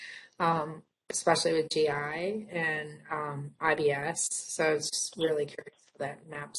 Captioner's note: audio interference